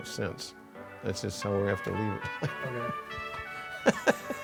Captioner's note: laughs